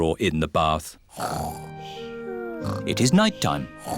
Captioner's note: snoring